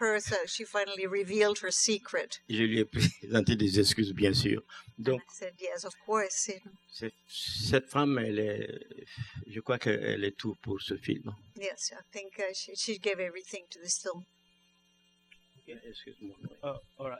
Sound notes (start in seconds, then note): 3.7 speaking french; 8.1 speaking french